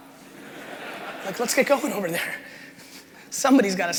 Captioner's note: crowd laughing